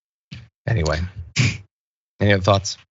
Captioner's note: cough